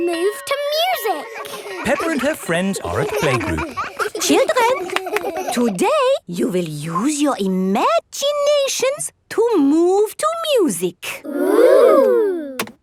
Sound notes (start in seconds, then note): 3.9 all laughing